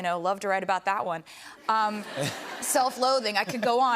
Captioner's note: laughter